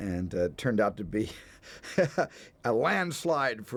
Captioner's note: laughs